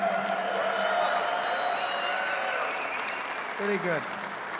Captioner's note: applause